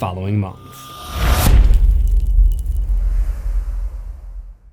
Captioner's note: impact